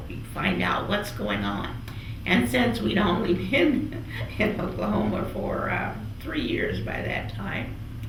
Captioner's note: laughs